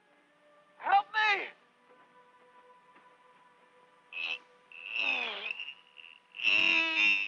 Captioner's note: grunting